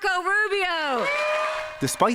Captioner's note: cheering and applause